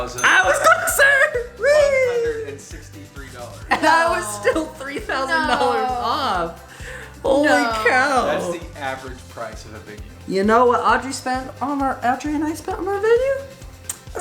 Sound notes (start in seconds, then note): 8.4 male Voice